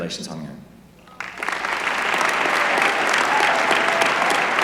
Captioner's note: applause